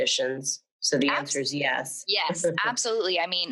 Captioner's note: laughs